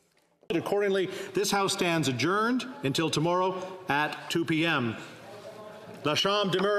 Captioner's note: speaking French